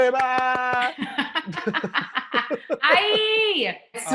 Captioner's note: laughter